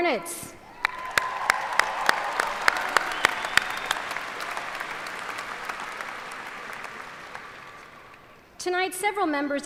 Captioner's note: applause